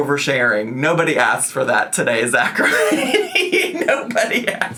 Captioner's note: laughs